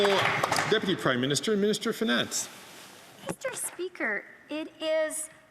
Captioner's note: some Applause